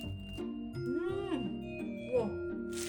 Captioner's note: vibrating Bell